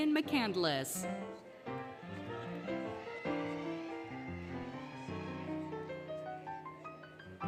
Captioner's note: applause, Cheering, Music